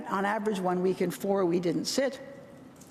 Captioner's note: none